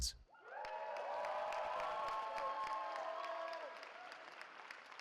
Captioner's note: cheering